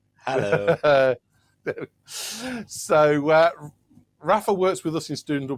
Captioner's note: laughs